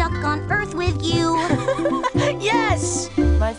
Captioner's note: laughing